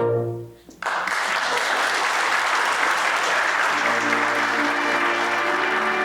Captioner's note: applause